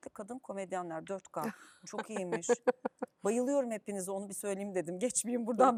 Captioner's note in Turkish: kahkaha